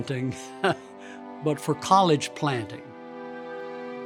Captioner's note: chuckling